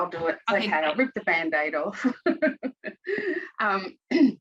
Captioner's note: chuckles